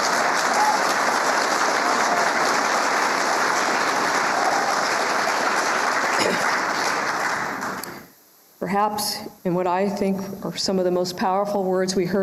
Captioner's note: applause